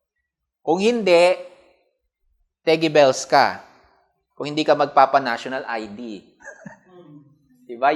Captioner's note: chuckles